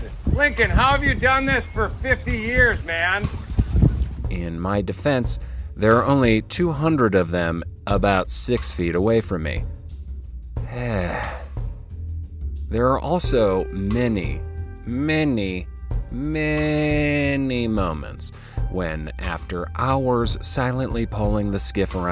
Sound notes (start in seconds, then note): 10.7 sighs